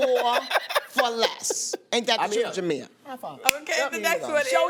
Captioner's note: laughs